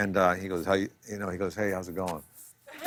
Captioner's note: laughter